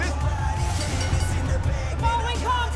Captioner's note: bell ringing